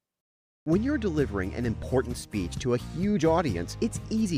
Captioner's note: voice-over